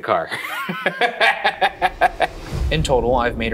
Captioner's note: laughs